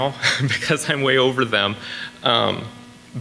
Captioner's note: laughs